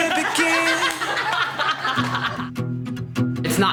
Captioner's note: all laughing